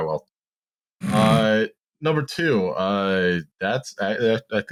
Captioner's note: snorts